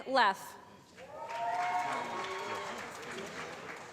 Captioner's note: applause